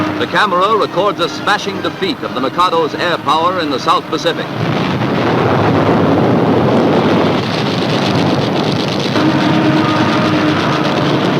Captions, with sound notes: The camera records a smashing defeat of the Mercado's air power in the South Pacific. (booming)